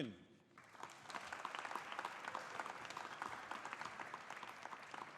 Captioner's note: audience applauding